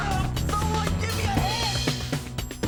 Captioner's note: screams